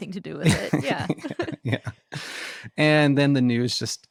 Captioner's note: both laughing